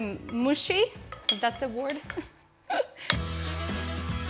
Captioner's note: chuckles; upbeat music